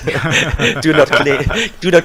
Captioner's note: laughter